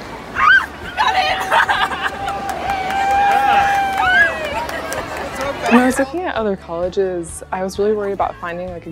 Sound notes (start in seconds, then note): 0.9 crowd clapping and cheering; 1.0 laughter